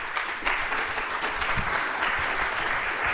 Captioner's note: applause